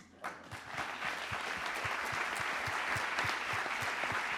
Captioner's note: applause